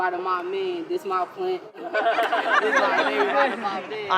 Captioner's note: gardeners laugh